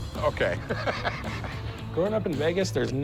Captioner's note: laughs